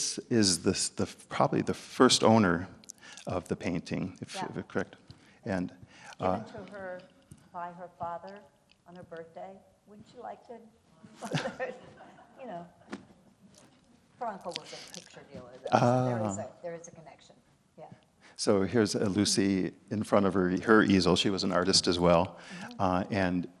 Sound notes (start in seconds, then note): 11.2 laughs; 11.3 audience laugh